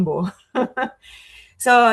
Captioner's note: laughing